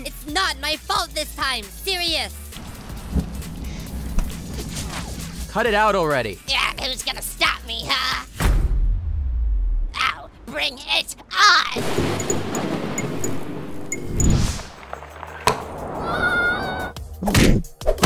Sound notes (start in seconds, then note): 16.0 screaming